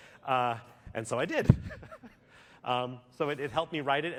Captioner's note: laughter